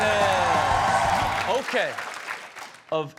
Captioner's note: audience cheering and clapping